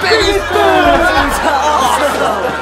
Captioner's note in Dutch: gelach